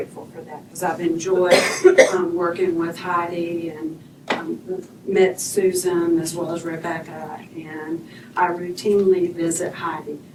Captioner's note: cough